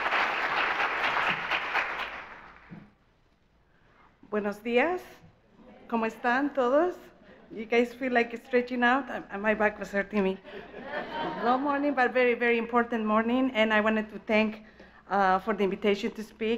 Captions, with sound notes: - [speaking in foreign language] You guys feel like it's stretching out? My back was hurting me. [audience laughs] Long morning, but very, very important morning and I wanted to thank for the invitation to speak.